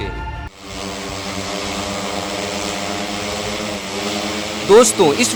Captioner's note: drone sound